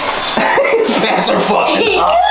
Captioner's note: laugh